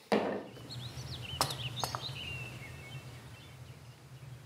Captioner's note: birdsong